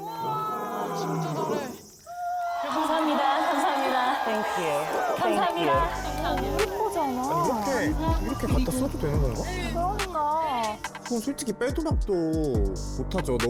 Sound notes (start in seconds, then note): 2.4 pouring applause and cheers